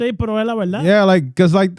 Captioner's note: speaking Foreign Language